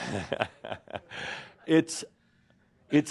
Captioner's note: chuckles